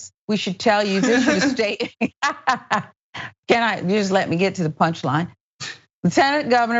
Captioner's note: laugh